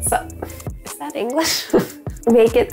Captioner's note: laughs